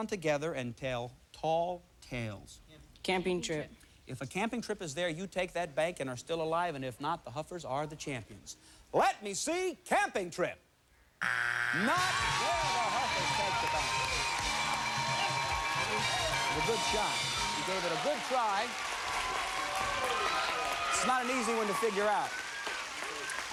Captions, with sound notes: AND TELL TALL TALES. CAMPING TRIP. IF A CAMPING TRIP IS THERE, YOU TAKE THAT BANK AND ARE STILL ALIVE. AND IF NOT, THE HUFFERS ARE THE CHAMPIONS. LET ME SEE CAMPING TRIP. [buzzer] NOT THERE. THE HUFFERS TAKE THE BANK. [cheers and applause] A GOOD SHOT. YOU GAVE IT A GOOD TRY. IT'S NOT AN EASY ONE TO FIGURE OUT.